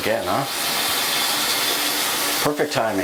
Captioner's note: toilet water turns on